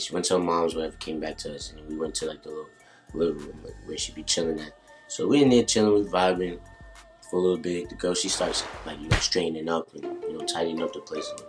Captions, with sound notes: She went to her moms, whatever, came back to us and we went to the little living room where she be chilling at. So, we in there chillin', we vibin' for a little bit. The girl she starts (glove snaps) like straightening up, like a little tidying up the place a little bit.